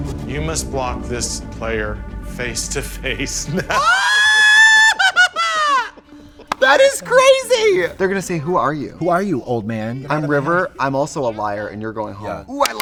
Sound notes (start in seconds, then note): 3.7 Trixie screams